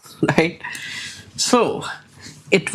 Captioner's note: chuckles